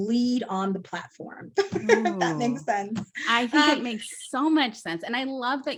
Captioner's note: laughs